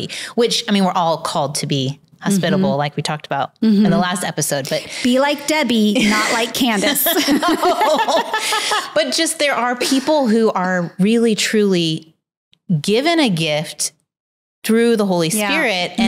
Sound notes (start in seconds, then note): 5.9 laughs